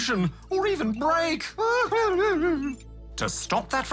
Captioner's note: whimpers